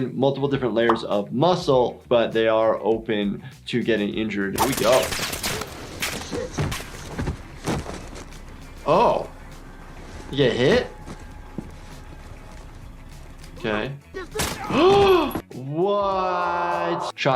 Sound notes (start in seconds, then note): 4.5 gunshots firing; 14.8 gasping